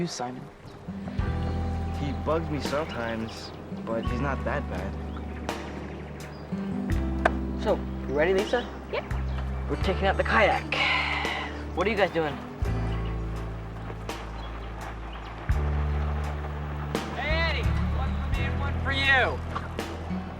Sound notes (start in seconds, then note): 12.8 sound of a jet-ski